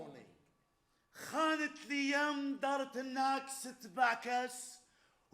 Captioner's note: man speaks Arabic